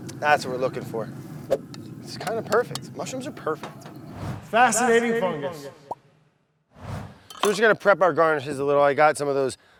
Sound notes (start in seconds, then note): 4.7 echoing voice